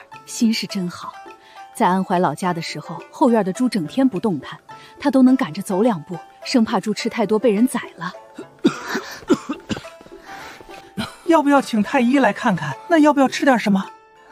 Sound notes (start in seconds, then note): 8.3 cough cough cough